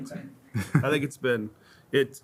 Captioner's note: laughs